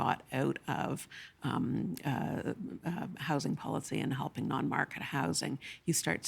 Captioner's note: stammering